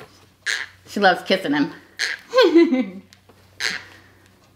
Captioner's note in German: knirscht mit den Zähnen; lacht; knirscht mit den Zähnen